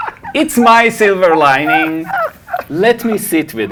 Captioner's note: laughing